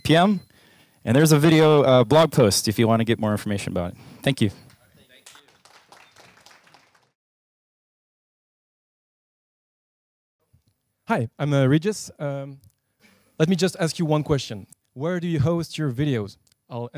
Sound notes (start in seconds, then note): 5.1 applause